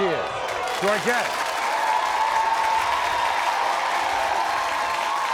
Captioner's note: crowd cheering